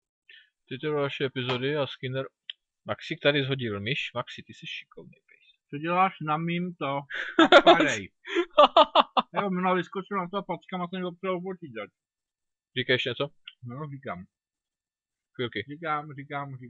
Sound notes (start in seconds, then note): 7.2 laughter